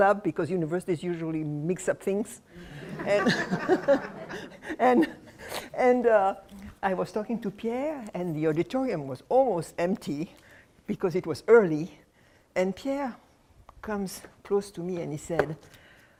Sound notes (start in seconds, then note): 2.7 laughter